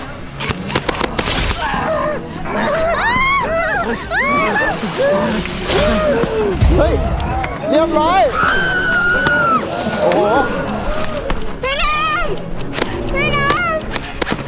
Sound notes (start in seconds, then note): 1.2 gunshot firing; 2.5 screams; 8.1 screams